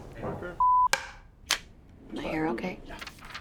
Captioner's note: murmurs